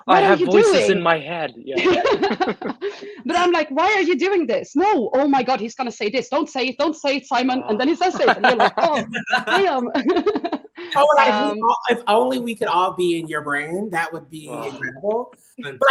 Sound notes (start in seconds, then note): 1.7 all laughing; 10.5 all laughing